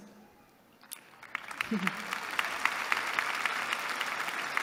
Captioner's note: applause